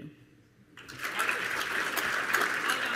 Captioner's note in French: Applaudissements